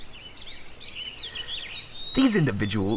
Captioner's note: inhale